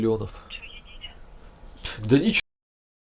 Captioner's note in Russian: голос из телефона